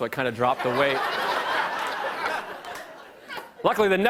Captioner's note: laughter